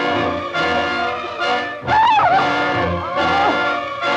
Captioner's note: screams